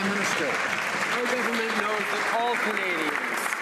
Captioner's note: some Applause